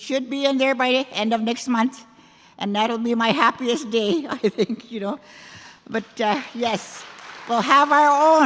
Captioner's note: applause